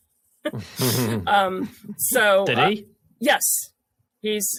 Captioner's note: laughs